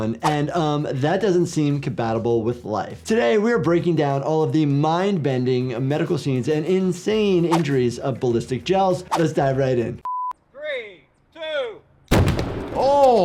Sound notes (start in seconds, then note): 10.0 screen beeping; 12.1 explosion banging